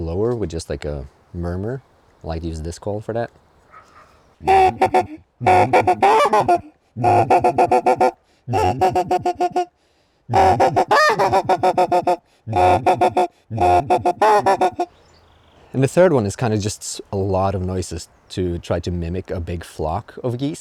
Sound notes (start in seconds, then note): 8.4 geese honking